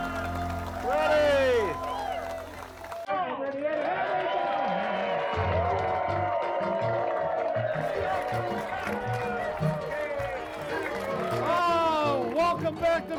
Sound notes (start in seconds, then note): 3.4 crowd cheering; 5.5 upbeat music